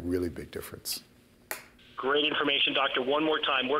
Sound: voiceover

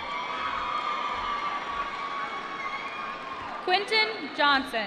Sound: applause

